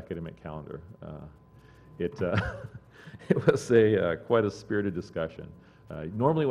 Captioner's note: laugh